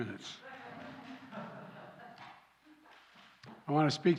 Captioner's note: laughter